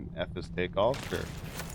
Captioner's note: gunshots